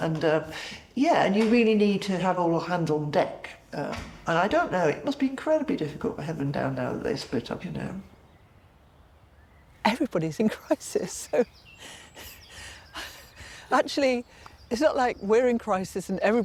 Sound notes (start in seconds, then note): 8.3 birds chirping; 11.7 chuckling